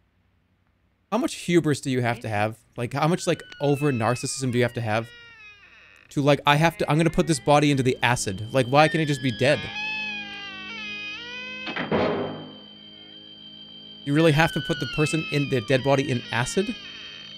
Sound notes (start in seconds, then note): none